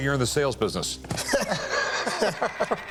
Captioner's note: both laugh